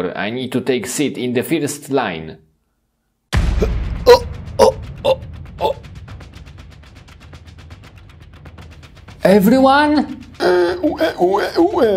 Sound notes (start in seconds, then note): 3.3 suspenseful music; 3.7 Chirik gasping